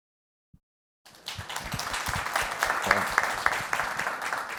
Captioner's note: applause